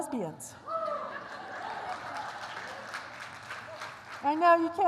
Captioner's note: applause